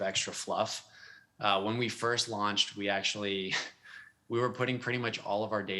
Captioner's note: chuckles